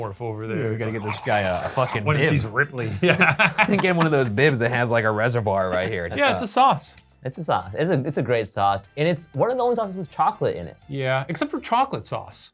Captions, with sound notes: - Yeah. We gotta get this guy a fucking bib. - Once he's Ripley. Yeah. (laughs) - I think get one of those bibs that has like a reservoir right here. - Yeah. It's a sauce. - It's a sauce. It's a great sauce. And it's one of the only sauces with chocolate in it. - Yeah. Except for chocolate sauce.